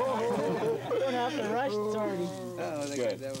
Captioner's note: laughter